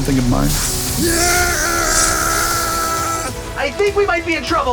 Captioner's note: yelling